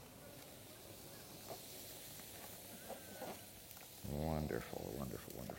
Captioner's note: hissing sound